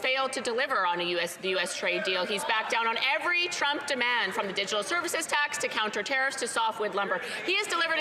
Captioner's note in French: voix de l'interprète